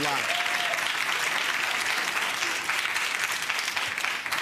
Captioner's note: audience applauds